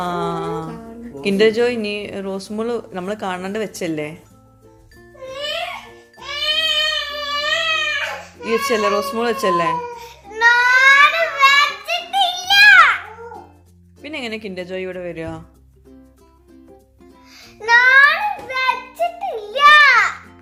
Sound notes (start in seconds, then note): 5.2 baby crying